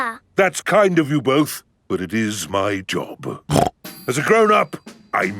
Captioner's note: snorts